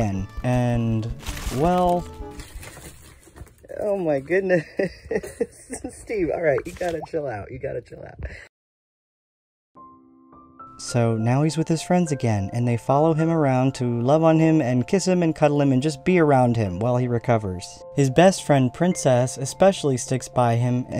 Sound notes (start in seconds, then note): 4.6 laughing